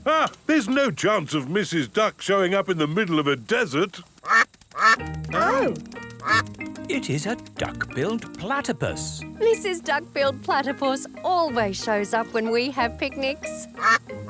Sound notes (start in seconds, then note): 4.7 quacking